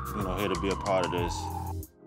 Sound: police sirens blare

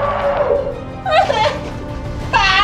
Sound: whining

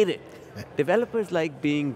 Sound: chuckles

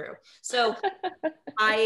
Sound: laughing

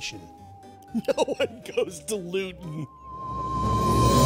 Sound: laughing

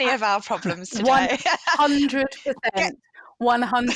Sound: chuckles

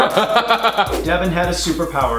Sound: Collins laughs loudly

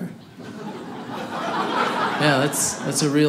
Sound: audience laughing

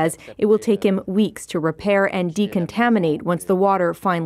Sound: speaking French

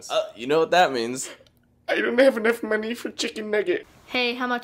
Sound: none

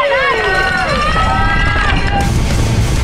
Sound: crowd

